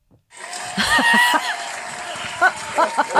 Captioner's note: cheers